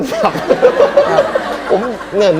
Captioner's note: laughter